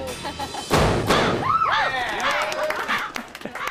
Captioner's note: laughs; shrieks